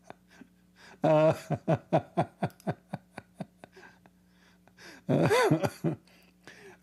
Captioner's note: Ketawa